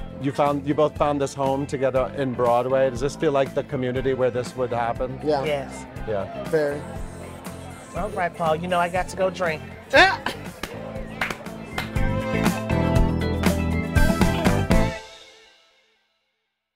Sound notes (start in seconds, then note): 10.0 J. Harrison laughing; 12.1 upbeat music